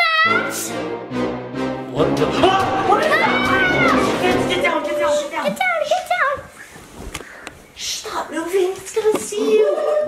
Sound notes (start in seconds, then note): 2.9 screams; 4.9 scary music